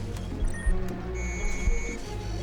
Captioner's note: beeps, whirrs